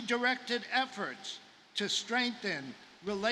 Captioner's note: none